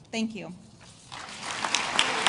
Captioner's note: applause